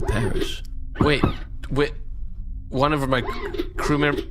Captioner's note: C-53 knocks on the box; C-53 knocks again; stuttering in panic